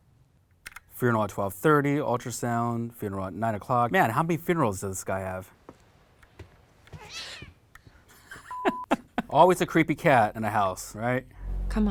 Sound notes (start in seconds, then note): 6.3 footsteps; 6.9 cat yowls; 7.3 gasping; 8.1 laughing; 8.5 beep